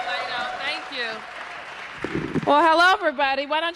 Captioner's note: applause